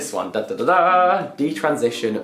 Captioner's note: he imitates a fanfare